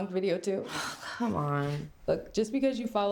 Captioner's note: sighs